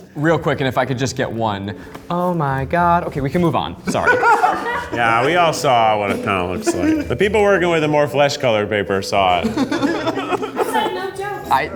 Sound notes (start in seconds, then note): 6.0 laughs; 9.3 group laughs